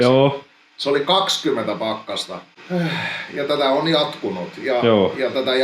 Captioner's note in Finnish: huokaisee